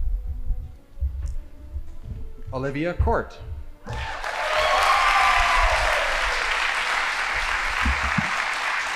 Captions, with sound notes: Olivia Kott. (audience applauding)